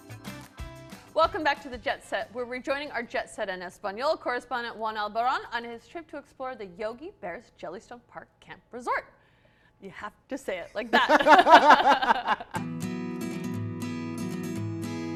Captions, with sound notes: - Welcome back to The JetSet. We're rejoining our JetSet in Español correspondent, Juan Albarran on his trip to explore the Yogi Bear's Jellystone Park Camp Resort. You have to say it like that. (laughs) (gentle music)